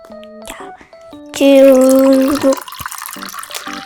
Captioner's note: coke dripping out from the soda fountain